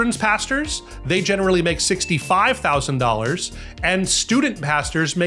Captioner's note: bell dings